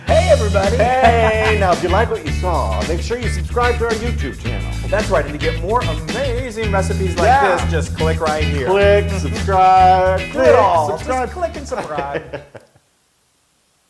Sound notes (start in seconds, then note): 12.2 laugh